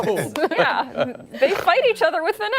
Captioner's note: laughter